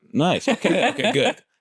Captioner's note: laughter